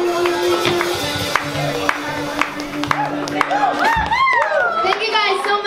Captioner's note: audience claps and cheers